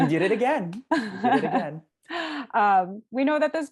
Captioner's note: laugh